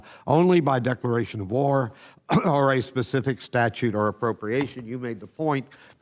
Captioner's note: coughs